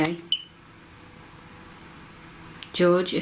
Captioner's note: beep